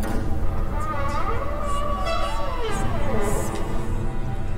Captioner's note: door creaking